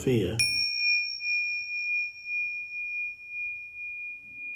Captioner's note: bell dinging